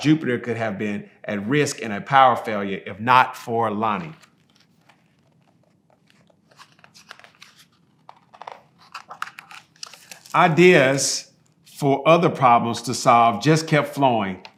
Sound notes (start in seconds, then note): 3.7 pages rustling